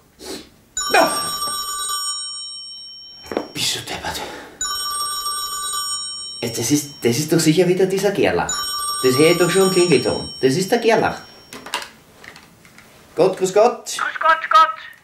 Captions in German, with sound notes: *Telefon klingelt* Bist du deppert! *Telefon klingelt* Das ist doch sicher wieder dieser Gerlach. Das höre ich doch schon am Klingelton. Das ist der Gerlach. Gott, grüß Gott. – Grüß Gott, Gott.